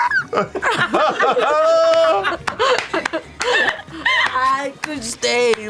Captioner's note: laughter, clapping